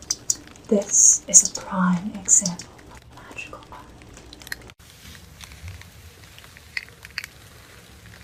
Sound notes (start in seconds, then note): 5.0 crinkling and raining sounds